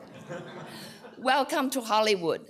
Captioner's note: laughter